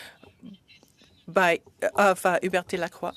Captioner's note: speaking French